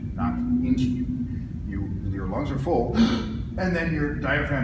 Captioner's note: sharp inhale